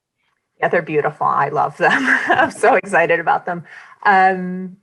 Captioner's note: chuckling